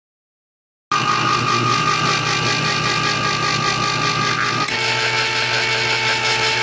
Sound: can opener running

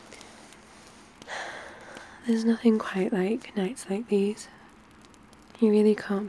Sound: sighs

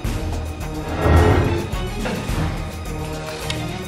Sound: heavy whooshing

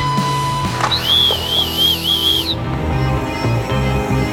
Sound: whistling; anticipatory music

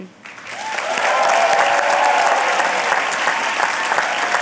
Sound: applause

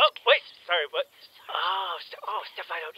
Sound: Donut whispers in Caboose's ear

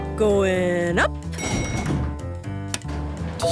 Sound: elevator pings

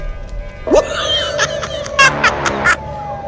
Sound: laughing

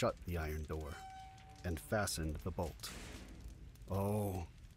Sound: slamming noise

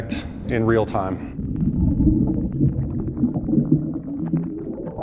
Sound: water gurgling

